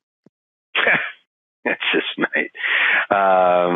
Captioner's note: laughing